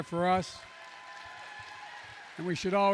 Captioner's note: applause